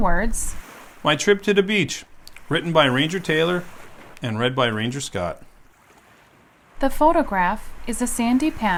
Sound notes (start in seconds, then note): 6.2 waves